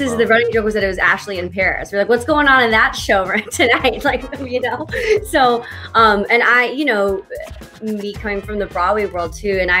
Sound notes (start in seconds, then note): 3.0 laughs